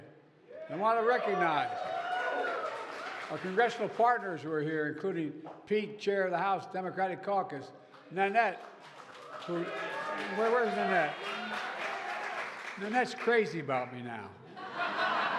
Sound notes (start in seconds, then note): 7.9 applause; 14.4 laughter